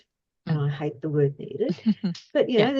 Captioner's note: laughs